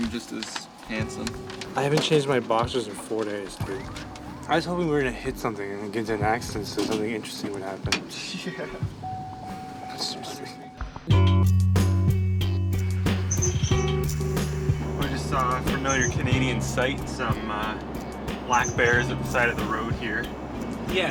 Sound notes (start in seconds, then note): 8.1 chuckling